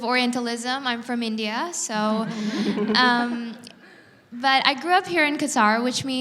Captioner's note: audience laughs